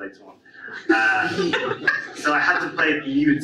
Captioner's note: audience laughs